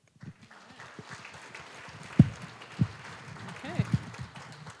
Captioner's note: applause